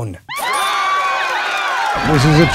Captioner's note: crowd cheers